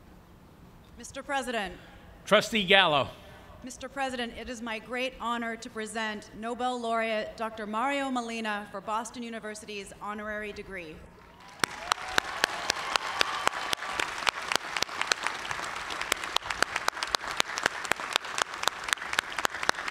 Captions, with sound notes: >> Mr. President. >> Trustee Gallo. >> Mr. President, it is my great honor to present Nobel laureate Dr. Mario Molina for Boston University's honorary degree. (cheers and applause)